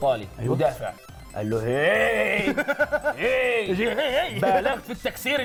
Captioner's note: laughs